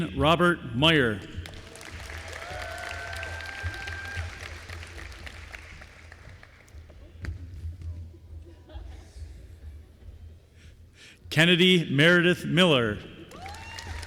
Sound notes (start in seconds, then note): 1.4 applause